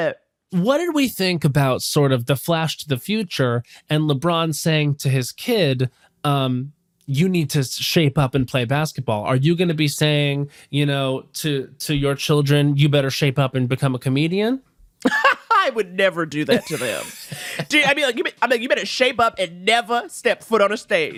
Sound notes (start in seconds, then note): 16.5 laughs